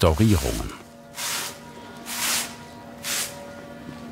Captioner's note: sweeping sound, church bells